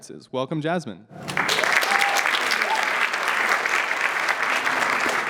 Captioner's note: applause